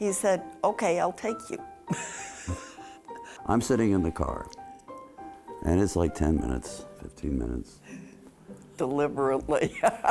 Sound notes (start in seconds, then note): 1.9 chuckles